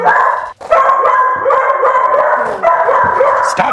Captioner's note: dog barking; dog continues barking